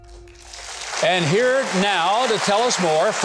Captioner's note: audience applauding